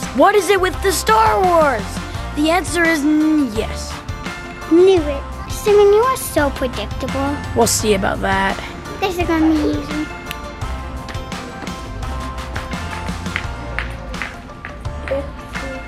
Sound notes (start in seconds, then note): 10.2 fingers snapping; 13.2 shoes clacking